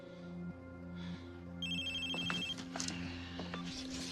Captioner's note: cell phone ringing